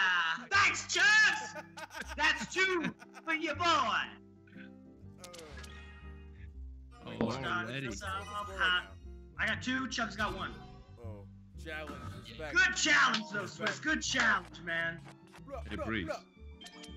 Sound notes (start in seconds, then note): 4.6 laugh